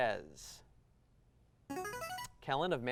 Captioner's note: buzzer